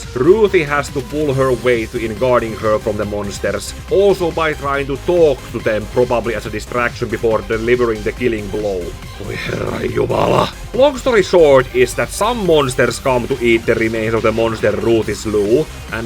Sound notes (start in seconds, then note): 9.2 voices his frustration